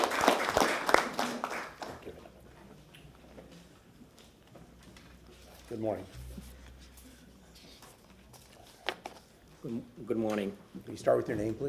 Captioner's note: applause